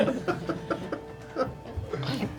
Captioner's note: all laugh